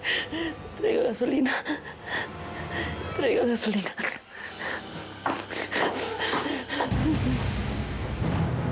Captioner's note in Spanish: llanto